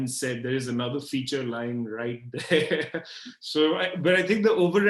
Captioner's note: laughs